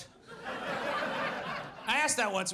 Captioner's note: audience laughs